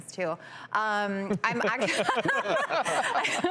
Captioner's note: laughing